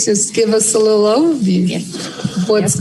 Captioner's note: laughter